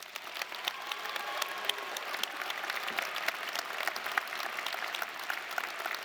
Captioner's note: audience cheering and applauding